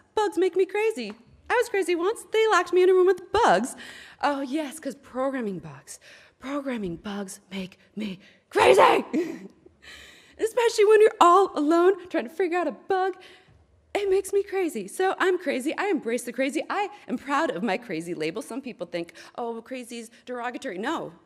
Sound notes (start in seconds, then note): 8.6 laughs